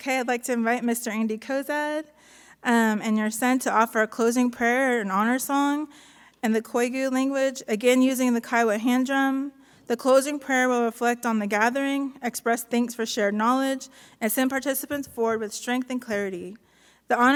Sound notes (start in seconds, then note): none